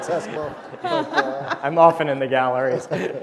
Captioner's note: laughter